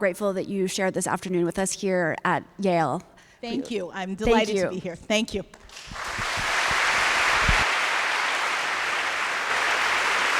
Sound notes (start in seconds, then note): 5.6 applause